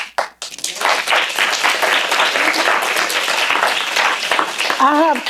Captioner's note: applause